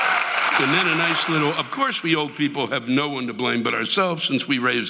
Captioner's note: audience cheering